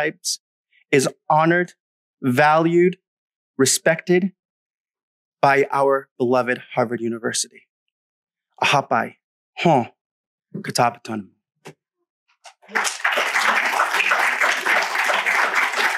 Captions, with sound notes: is honored, valued, respected, by our beloved Harvard University. [Speaking in Wampanoag] [APPLAUSE]